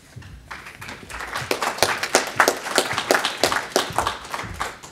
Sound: audience applauding

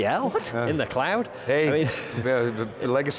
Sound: laughing; laughing

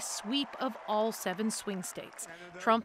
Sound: cheers and Applause

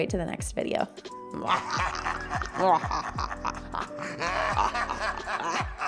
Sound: laughing maniacally

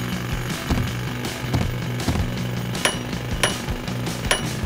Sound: clink

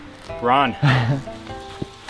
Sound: laughs

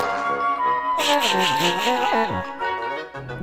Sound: laughing

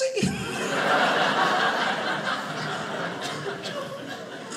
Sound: audience laughing

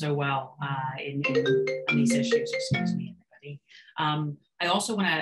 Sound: phone rings

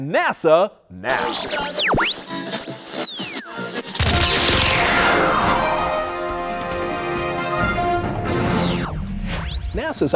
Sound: sound Effects

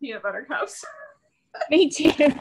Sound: laughs

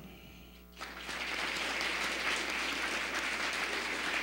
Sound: applause

